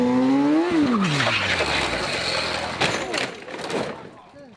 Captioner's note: tires skidding